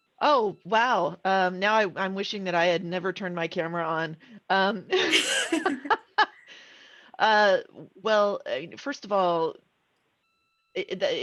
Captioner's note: laughing